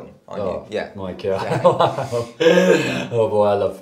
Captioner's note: laughs awkwardly